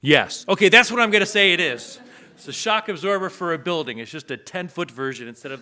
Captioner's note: audience laughs